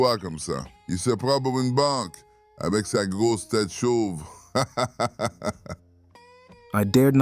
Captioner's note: speaking French